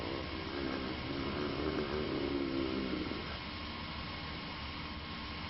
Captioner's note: creature growling